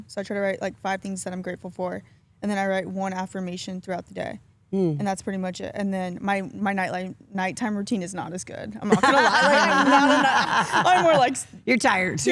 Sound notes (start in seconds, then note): 8.8 Stephanie laughs